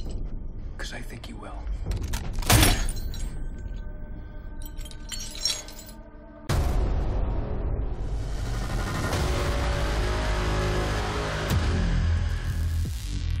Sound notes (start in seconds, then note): 1.9 crack; 4.5 chains rattling